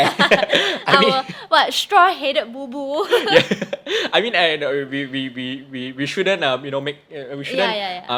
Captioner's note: both laugh; laughs